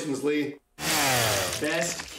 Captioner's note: chainsaw sound